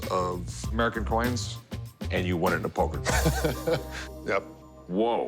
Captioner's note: laughs